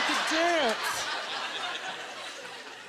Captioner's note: audience laughter